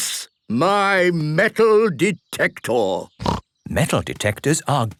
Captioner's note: snorting